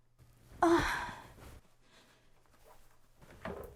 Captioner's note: moans